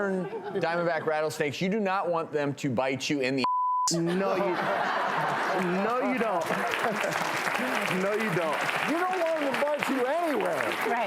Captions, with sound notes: - And western diamondback rattlesnakes, you do not want them to bite you in the (beep). (audience laughs) - No you don't (laughs). No you don't. - You don't want 'em to bite you anywhere.